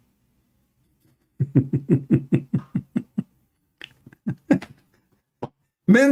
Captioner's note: Ketawa